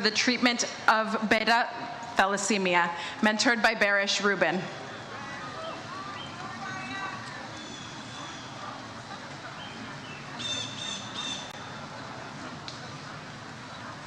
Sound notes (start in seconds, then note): 4.8 audience cheers